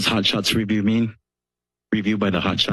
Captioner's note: silence